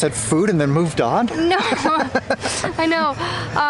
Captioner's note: laughter